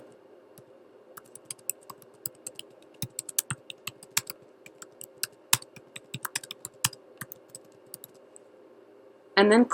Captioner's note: typing